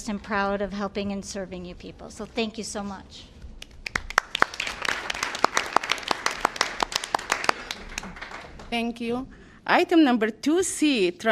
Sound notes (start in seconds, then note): 3.6 applause